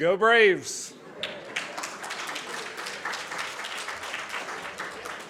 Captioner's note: audience claps